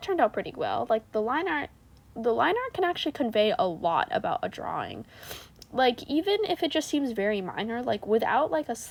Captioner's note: snif